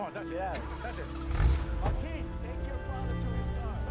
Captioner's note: engine roars